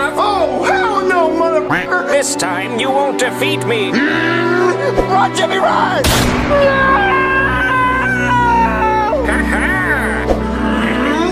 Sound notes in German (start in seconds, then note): 3.6 wütendes Geschrei; 6.0 Schießerei